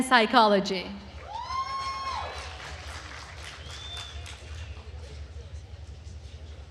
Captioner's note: attendees cheering and applauding